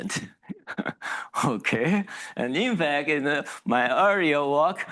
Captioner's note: laughs